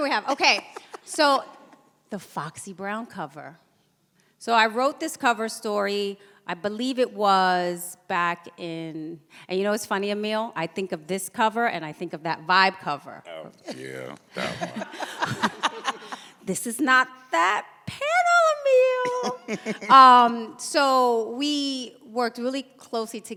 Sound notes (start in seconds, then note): 0.2 laughs; 15.0 laughs; 19.0 chuckles